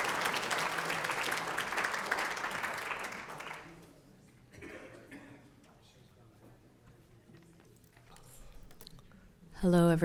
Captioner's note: applause